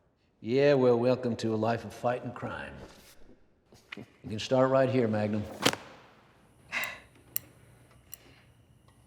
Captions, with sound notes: YEAH, WELL WELCOME TO A LIFE OF FIGHTING CRIME. YOU CAN START RIGHT HERE MAGNUM. [SLAMS FOLDER SHUT] [SIGHS]